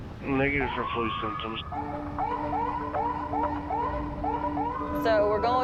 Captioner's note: sirens